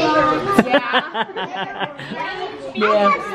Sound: laughs

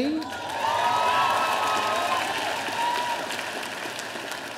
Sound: audience applauding

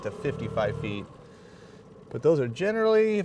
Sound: boat engine idling

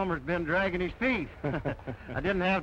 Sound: chuckling

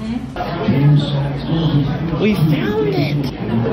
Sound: background bar sounds

